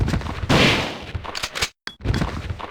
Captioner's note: gunshots